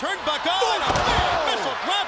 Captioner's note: crowd cheering